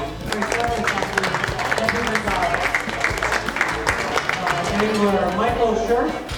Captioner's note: applause drowns out commentary